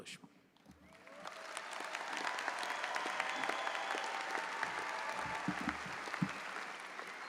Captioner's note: audience applauding; audience cheering